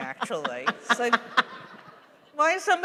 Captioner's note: laughter